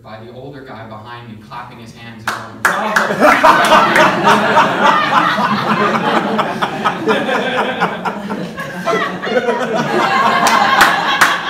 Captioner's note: laughter